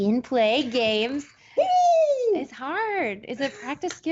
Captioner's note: screaming